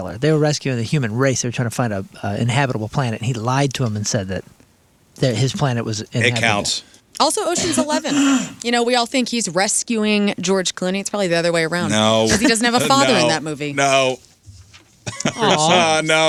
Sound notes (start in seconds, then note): 15.0 laughing